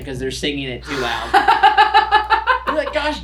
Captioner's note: laughs